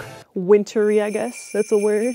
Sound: bells jingling

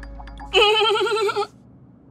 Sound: bleating

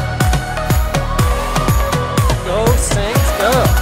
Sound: cheering

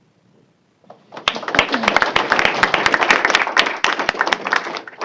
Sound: applause

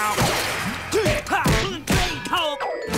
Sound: grunting

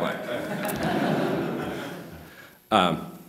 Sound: laughter

